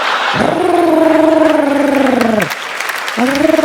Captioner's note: audience laughs; purrs; audience applauds